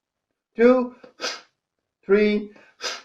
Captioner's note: exhales sharply; exhales sharply